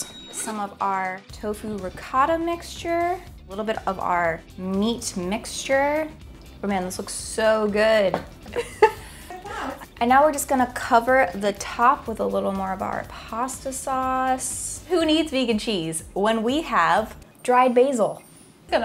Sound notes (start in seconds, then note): 8.5 laughing off screen